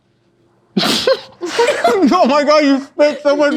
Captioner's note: all laugh